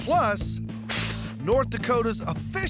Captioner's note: both spitting